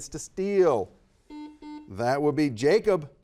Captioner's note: buzzer buzzes